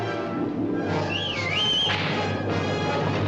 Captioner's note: whistles